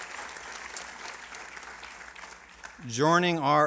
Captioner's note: applause